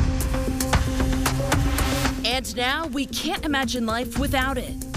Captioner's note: impact